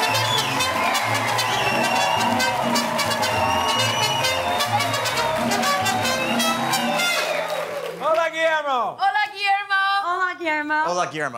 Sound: cheers and applause

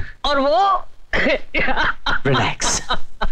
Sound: crying

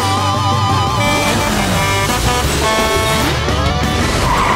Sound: Blaze honking

